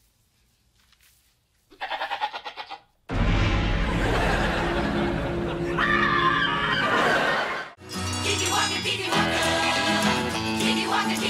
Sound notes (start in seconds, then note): 1.7 bleating; 3.1 eerie music playing; 5.7 screaming